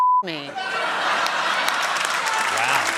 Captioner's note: laughter